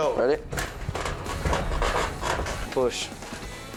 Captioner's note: creaking